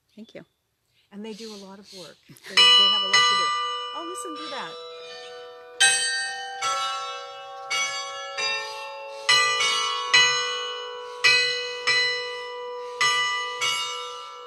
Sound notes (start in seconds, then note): 2.4 bells ringing